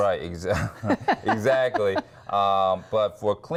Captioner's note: laughing